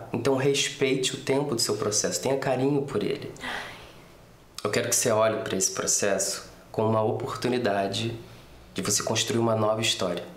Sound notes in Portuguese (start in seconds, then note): 3.4 suspiro